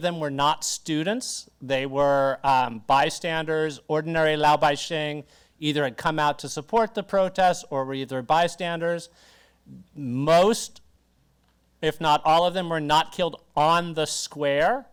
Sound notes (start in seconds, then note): 4.4 speaks Mandarin